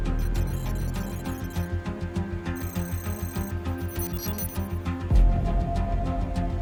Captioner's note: computer calculating sound effect; suspenseful music